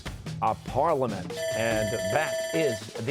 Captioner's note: bell ringing